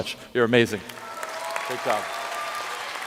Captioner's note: applause